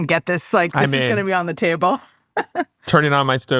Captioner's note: laughs